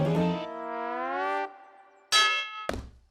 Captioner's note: clangs